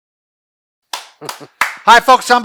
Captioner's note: clapping